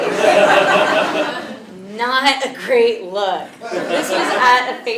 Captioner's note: laugh